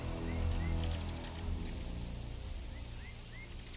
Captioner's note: birds chirping